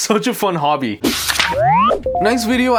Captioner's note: electronic beeping